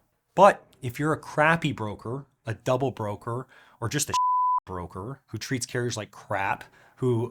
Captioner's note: beep